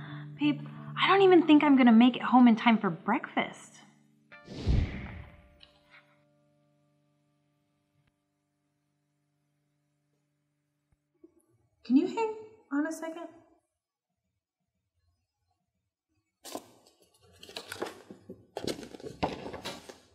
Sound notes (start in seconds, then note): 4.4 whoosh